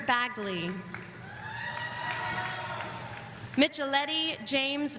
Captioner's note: audience cheering